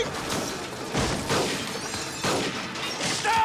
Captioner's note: gunshots